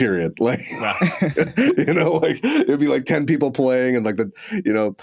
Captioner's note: chuckling